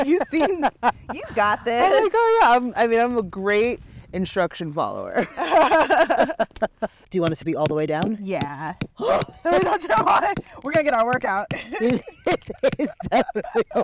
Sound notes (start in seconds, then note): 5.2 both laughing